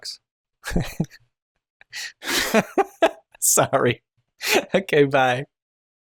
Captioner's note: laughter